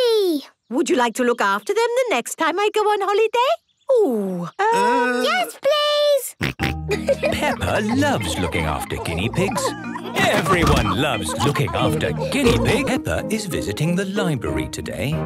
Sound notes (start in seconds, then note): 6.6 snorting and giggling; 12.1 laughter